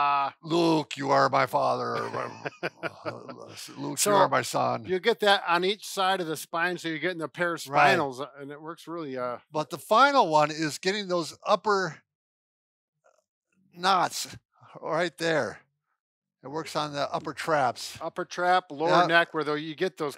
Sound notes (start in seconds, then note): 1.7 laughs